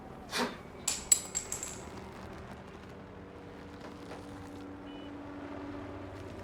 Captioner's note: Nash spits; bottle hisses; cap clatters